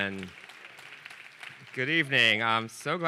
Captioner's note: audience applauding